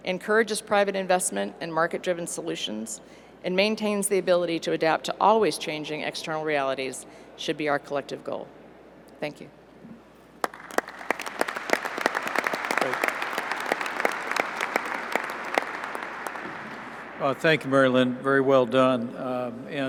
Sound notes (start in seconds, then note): 10.4 applause